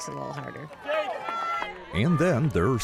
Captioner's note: cheering